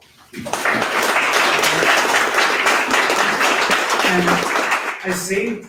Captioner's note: audience applause